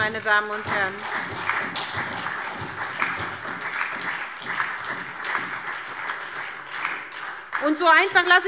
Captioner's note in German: Beifall SPD und DIE LINKE